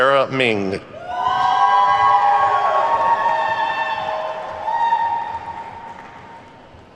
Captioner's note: attendees whooping and clapping